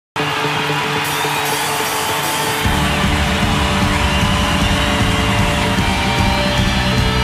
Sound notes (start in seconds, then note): 0.2 audience cheering; 2.6 drums thumping